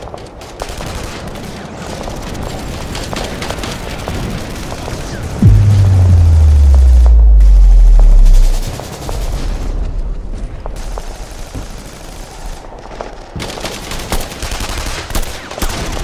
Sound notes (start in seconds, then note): 5.4 boom resounds; 8.7 guns blasting